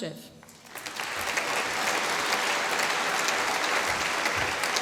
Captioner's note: applause